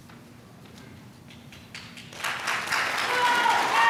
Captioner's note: applause